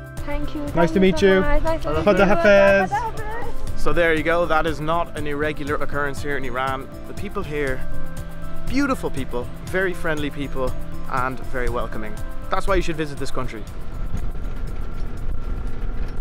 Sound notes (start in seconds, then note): 2.9 speaking Farsi